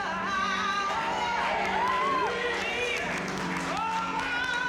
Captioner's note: cheering